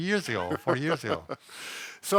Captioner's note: laughs